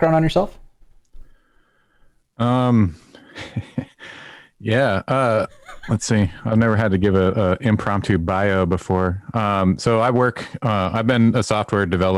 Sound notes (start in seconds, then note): 5.3 laughter